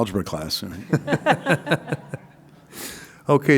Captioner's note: laughter